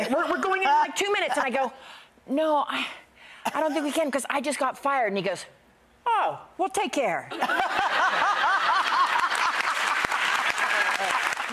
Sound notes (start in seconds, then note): 7.4 audience laughs; 8.5 audience applauds